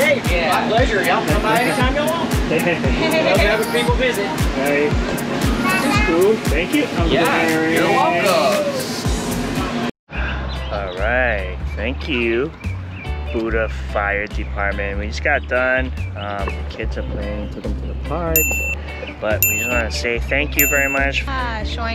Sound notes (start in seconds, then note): 2.5 group laughing; 19.4 bell ringing